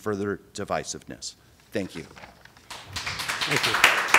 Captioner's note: applause